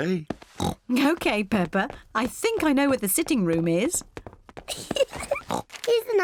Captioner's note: oinks; giggles